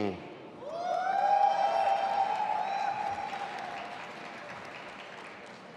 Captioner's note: audience applauding and cheering